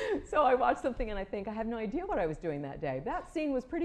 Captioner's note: laughter